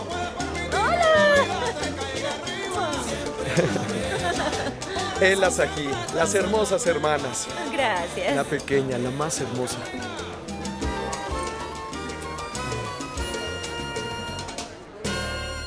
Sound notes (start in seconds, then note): 3.5 Bruno y Esperanza ríen; 10.0 Música latina; 13.5 Música latina